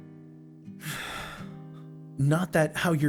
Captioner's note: sighs